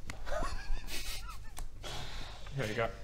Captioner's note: shifty giggles